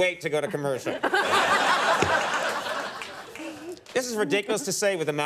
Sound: audience laughs

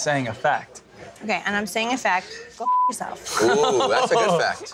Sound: beep

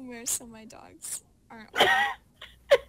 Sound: laughs

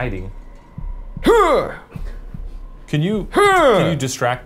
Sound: grunts

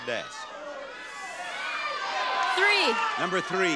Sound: audience shouting

